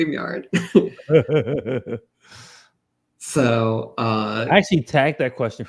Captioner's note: laughs